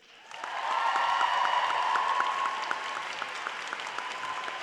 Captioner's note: applause